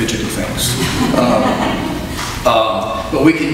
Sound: audience laughs

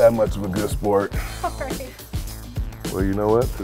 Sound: laughter

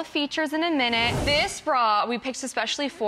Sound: whooshes

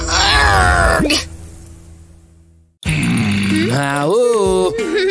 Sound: evil laughter

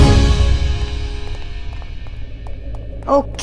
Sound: footsteps

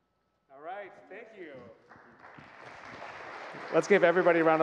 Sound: audience clapping

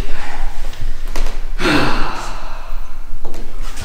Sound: sighs

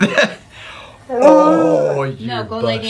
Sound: dog howling; laughs

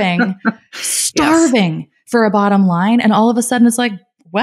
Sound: laughing

